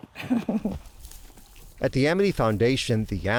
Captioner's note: laughs